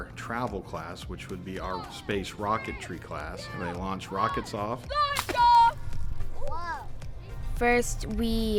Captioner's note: kids Voices; cheering